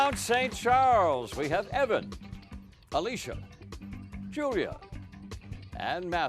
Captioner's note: cheering and applause